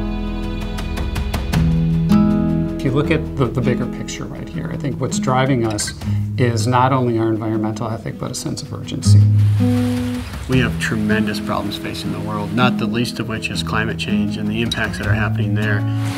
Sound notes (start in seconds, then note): 0.5 mellow music; 9.1 rain pattering